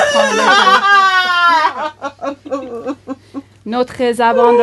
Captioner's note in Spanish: Alguien llora alto